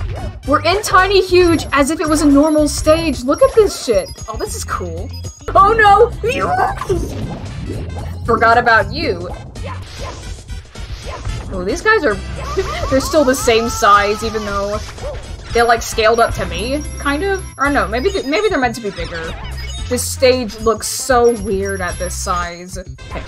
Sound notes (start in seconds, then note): 5.9 indescribable panic noise; 12.4 laughs